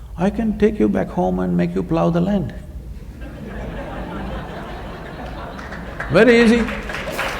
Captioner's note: laughter/Applause